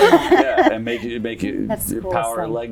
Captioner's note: laughter